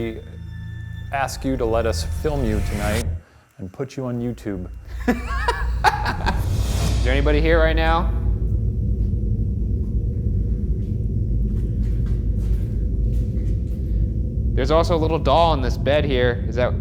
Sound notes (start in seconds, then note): 4.9 laughing